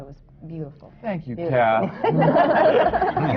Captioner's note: laughter